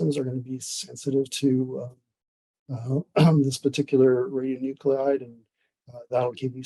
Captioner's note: clears throat